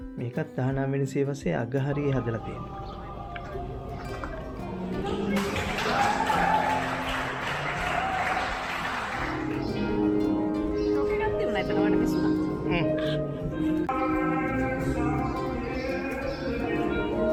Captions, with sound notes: This was built towards the end of 19th century. [People applauding a street singer] That was nice, but, you missed it.